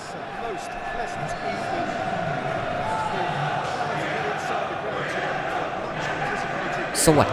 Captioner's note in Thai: ปรบมือ